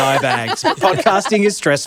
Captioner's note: group laughs